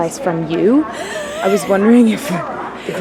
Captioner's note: laughs